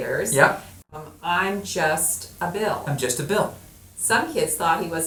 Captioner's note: voiceover